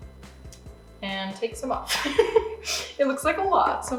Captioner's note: laughing